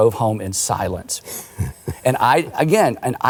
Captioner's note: laughing